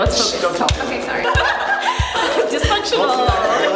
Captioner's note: laughing